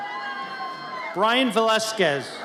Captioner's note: audience cheers